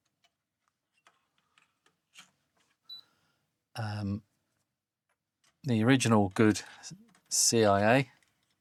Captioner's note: typing